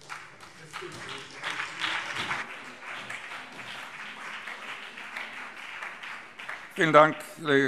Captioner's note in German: Beifall SPD und BÜNDNIS 90/DIE GRÜNEN